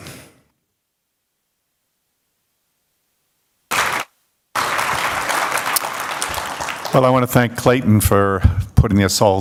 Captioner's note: applause